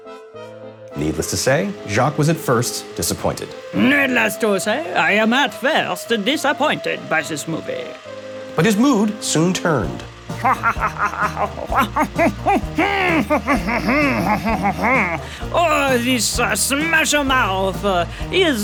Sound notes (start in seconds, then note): 10.3 Jacque laughs